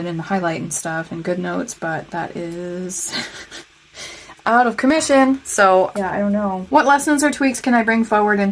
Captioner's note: painful laughter